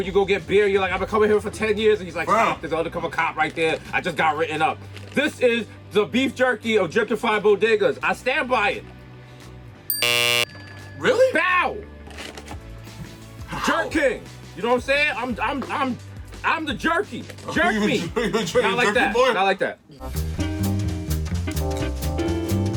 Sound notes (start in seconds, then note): 9.9 bell dings; 9.9 buzzer buzzes; 20.0 lively jazz music